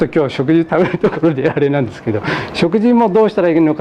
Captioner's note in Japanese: 笑い